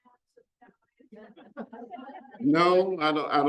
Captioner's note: audience laughs